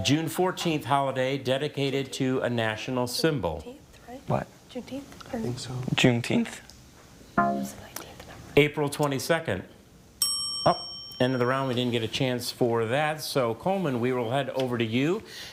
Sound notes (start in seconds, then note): 10.2 bell dings